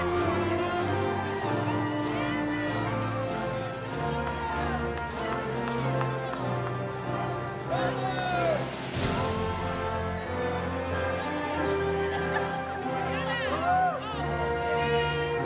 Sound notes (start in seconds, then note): 1.3 cheering continues; 1.3 inspirational music